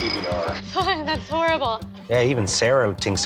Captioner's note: laughs